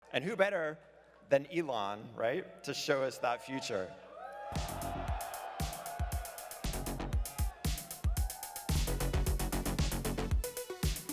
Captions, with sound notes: - And who better than Elon, right to show us that future? (crowd cheering) (upbeat music)